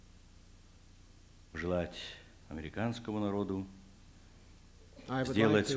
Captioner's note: non-english speech